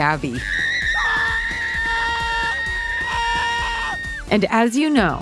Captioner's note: Gabi and Vivo screaming